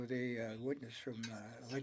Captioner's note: speaking French